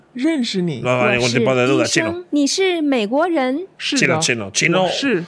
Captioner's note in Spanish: habla en un idioma extranjero